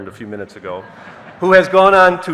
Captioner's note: audience laughing